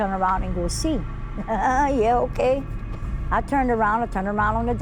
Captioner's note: laughing